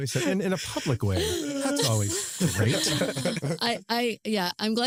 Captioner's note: laughter